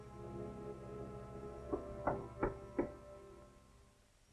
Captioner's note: knocking